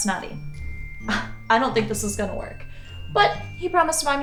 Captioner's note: scoffs